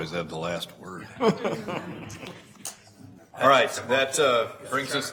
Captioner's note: laughing